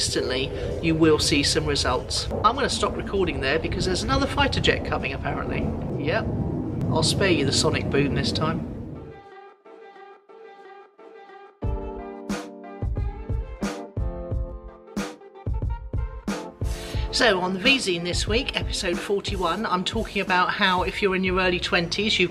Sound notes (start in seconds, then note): 5.4 jet engine; 9.2 R&B music